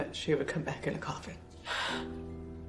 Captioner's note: sighs